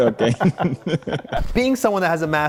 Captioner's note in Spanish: risas